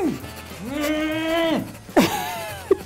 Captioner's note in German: Angestrengte Laute; stöhnt; Lachen